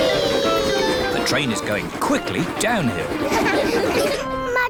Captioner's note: laughter